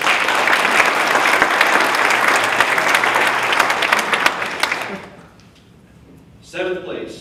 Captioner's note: applause